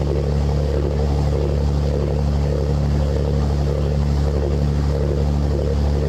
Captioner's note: boat engine roaring